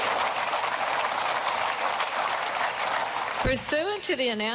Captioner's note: cheering and applause